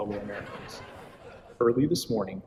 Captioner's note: laughter